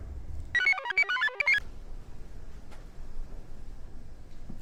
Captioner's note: computer chirps